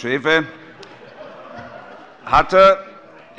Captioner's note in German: Heiterkeit - Beifall bei Abgeordneten der FDP